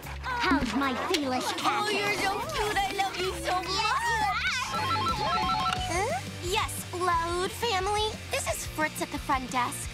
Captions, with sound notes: How's my fearless cat? Oh you're so cute I love you so much! [phone ringing] Yes, Loud family, this is Fritz at the front desk,